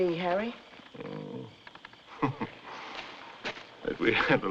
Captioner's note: chuckles